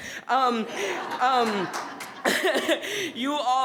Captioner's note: attendees laughing